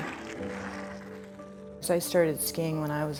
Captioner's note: skateboard wheels on concrete